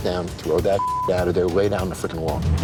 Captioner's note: beep